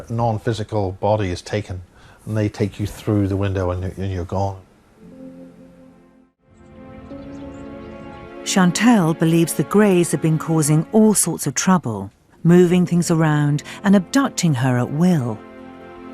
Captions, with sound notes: your non-physical body is taken. And they take you through the window, and you're gone. - [Voiceover] Chantelle believes the Grays have been causing all sorts of trouble. Moving things around, and abducting her at will.